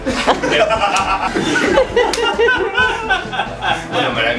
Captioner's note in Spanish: risas